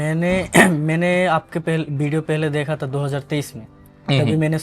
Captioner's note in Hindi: गला साफ़ करने की आवाज़